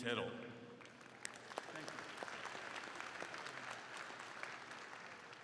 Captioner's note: crowd clapping